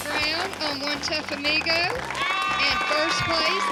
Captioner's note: cheering, applause